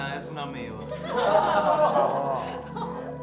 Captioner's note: laughter